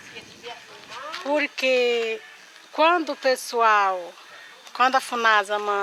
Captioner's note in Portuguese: Som de rádio